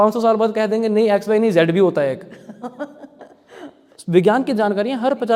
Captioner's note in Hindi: हंसी